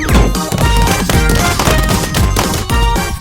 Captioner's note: flower pot banging rapidly